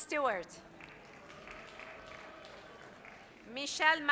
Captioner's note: audience applauds